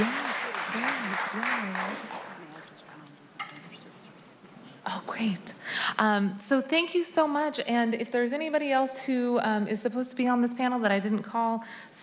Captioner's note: applause